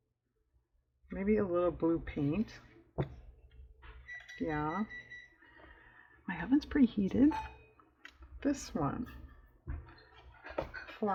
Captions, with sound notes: maybe a little blue paint (electronic beeping) yeah my oven's preheated this one